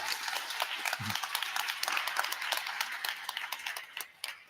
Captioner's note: audience applauding